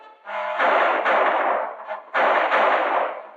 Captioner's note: gunshots